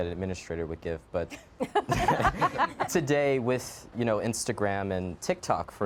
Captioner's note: laughs